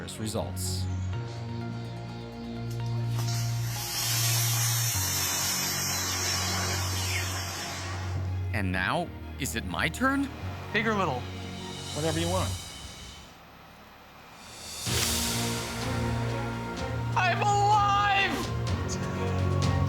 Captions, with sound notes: ...with disastrous results. (hissing) And now, is it my turn? Big or little? Whatever you want. I'm alive!